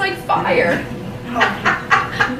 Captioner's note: laughter